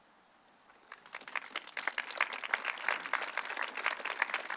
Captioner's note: audience clapping